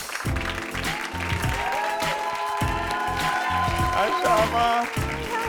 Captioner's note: audience cheering